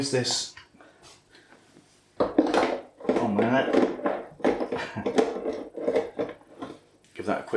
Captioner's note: clunk, rattle, curse